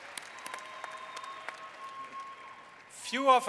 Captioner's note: applause